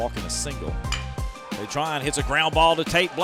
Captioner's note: voiceover